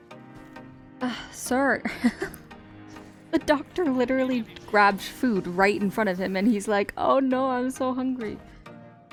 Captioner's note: laughs